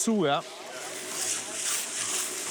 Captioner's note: grinding noises